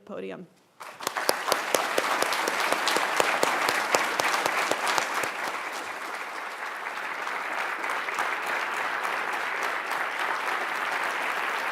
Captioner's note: applause